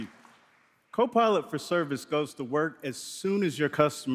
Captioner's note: applause